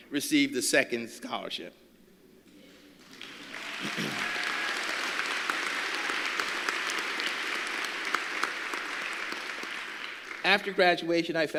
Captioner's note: applause